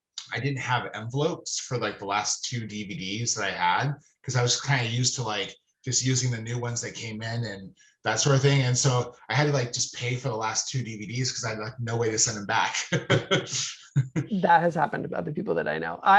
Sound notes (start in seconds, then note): 13.8 laughing